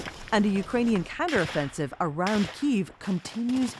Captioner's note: gunshots firing